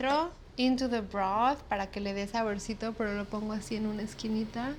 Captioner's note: speaking Spanish